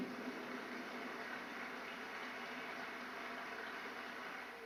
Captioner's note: audience applauds